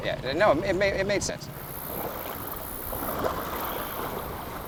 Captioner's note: water splashing